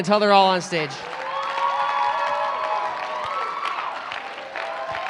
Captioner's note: applause